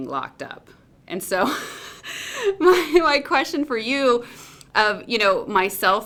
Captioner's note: laughs